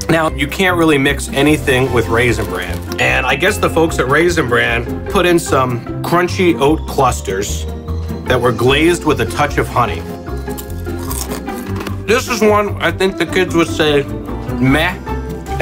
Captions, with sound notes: Now, you can't really mix anything with Raisin Bran. And I guess the folks at Raisin Bran put in some crunchy oat clusters that were glazed with a touch of honey. (crunching) This is one I think the kids would say meh.